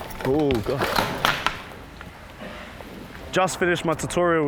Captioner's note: crashing